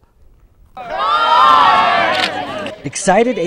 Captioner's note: shouting